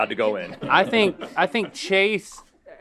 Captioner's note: laughing